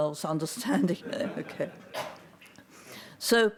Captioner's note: audience laughs